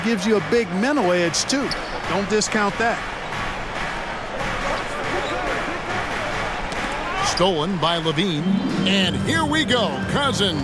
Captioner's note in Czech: Potlesk